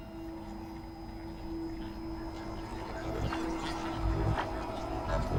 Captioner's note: static hisses and buzzes